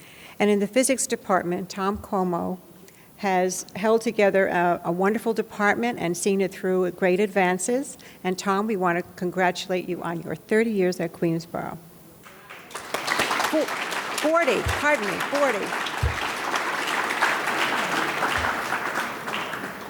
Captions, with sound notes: And in the Physics Department, Tom Como has held together our wonderful department and seeing it through great advances. And Tom we want to congratulate you on your 30 years at Queensborough. (audience claps) 40, pardon me, 40.